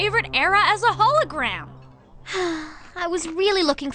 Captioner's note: sigh